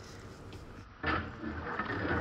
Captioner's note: bubbling